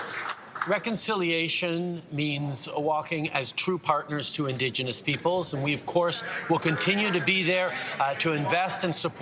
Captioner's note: some Applause